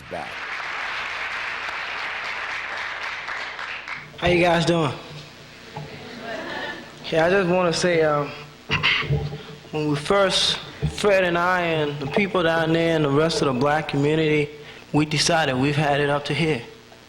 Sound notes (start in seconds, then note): 0.0 congregation clapping; 5.9 congregation murmurs; 8.7 clears throat